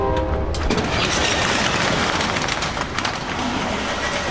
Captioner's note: metal door clattering